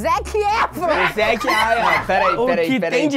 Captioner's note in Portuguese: risadas